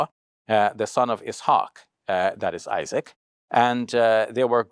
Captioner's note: foreign language